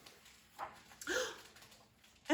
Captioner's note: gasp